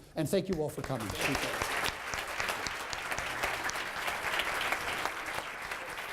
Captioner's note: applause